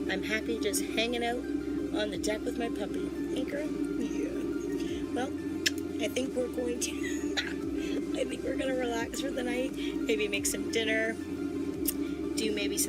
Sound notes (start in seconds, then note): 7.1 laughs